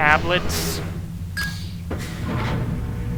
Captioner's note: ding whoosh